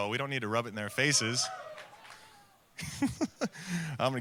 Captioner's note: audience cheering